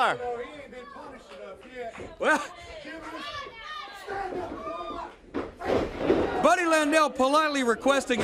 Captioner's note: crowd chatter